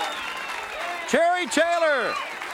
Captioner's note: crowd cheering